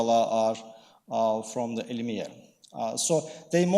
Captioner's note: speaking in foreign language